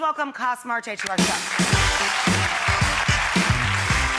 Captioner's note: applause